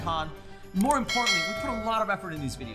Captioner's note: bell dinging